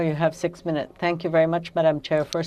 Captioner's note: speaking french